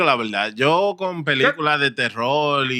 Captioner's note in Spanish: Hablando en idioma extranjero